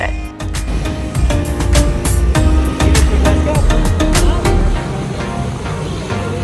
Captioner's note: upbeat music; engines whining